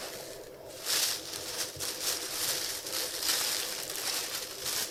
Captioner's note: tissue crinkling